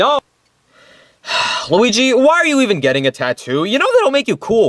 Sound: sighs

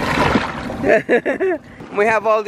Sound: laughs

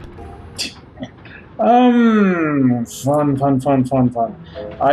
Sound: scoffs

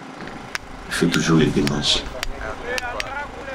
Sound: digging

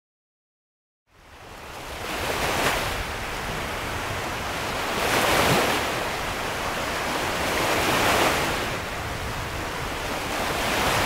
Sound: sound of sea

